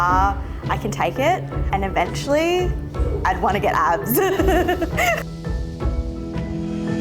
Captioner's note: laughs; bright music